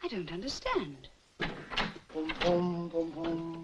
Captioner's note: door clicks open; Dick vocalizing